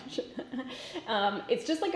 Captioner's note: laughs